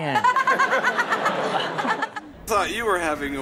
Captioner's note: laughs